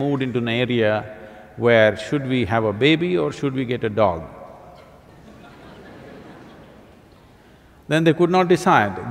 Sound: laughter

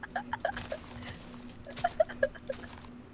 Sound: laughing for a while

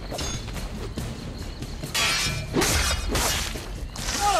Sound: fighting sounds

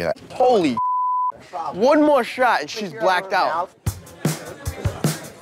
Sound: beep; upbeat music playing

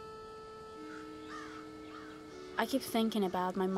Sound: crows cawing

